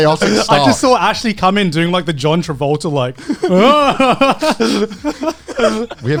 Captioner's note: laughs